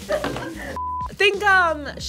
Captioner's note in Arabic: صافرة